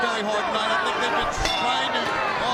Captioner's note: bell clangs